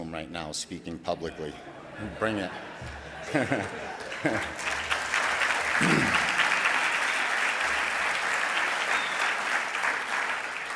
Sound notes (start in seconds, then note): 1.4 audience laughing; 4.8 audience clapping